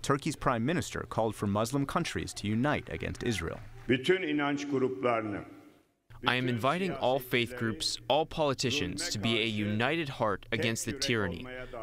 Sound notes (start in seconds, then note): 5.6 through translator